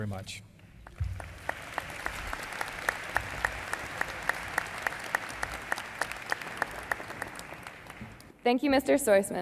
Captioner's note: applause